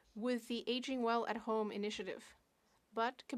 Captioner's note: speaking French